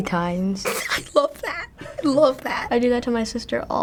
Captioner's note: cracking up